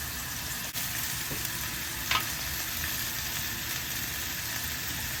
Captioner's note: sizzling asmr